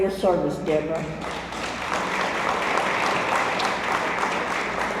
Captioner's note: audience applauds